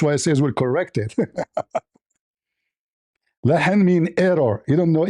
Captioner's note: laughter